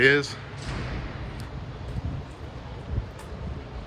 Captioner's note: door bangs